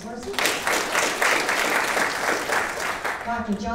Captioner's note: audience applauding